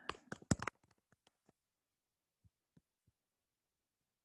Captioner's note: keys clicking